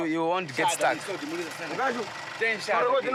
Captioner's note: Portuguese spoken audio